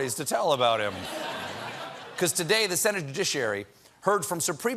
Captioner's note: laughter